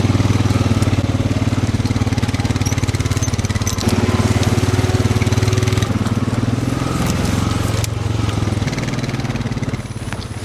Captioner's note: engine roars over dry brush